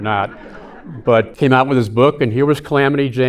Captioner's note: audience laughing